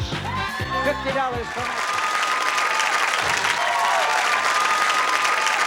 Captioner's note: cheers, applause